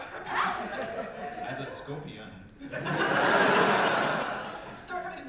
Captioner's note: audience laughter